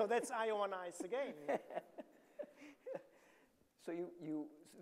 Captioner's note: laughs